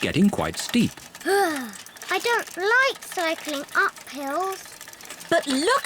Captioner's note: groans